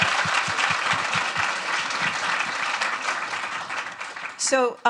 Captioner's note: audience applauding